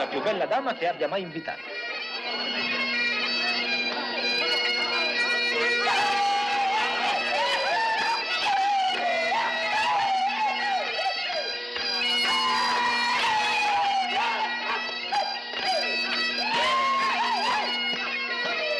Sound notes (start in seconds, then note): 2.3 bagpipes playing; 5.4 laughing, shouting